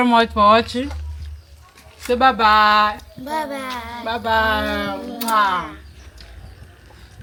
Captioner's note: kisses